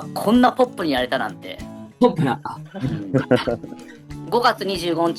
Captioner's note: laughs